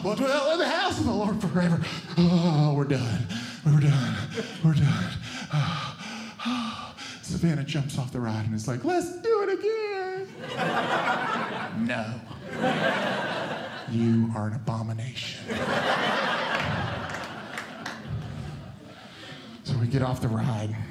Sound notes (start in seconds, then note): 3.3 shuddering; 10.3 audience Laughing; 15.4 audience Laughing